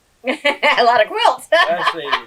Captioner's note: laughs